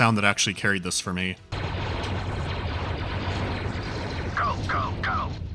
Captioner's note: authentic blaster fire